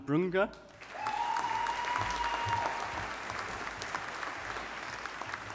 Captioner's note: audience applauding